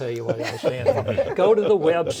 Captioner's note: all laugh